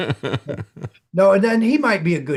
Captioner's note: laughing